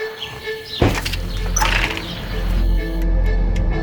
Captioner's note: compelling music; door shuts